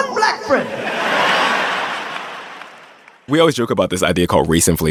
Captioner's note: audience laughing